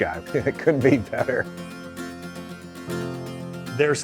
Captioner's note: chuckles